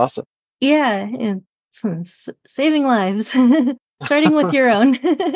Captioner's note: laughs